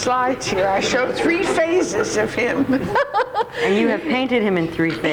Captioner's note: laughs